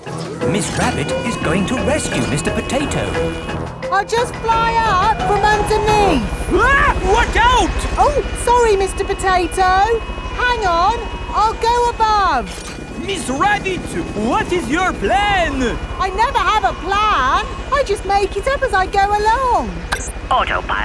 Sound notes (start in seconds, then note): 6.8 screams